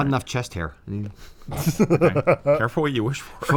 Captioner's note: chuckles